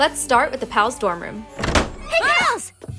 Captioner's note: door slams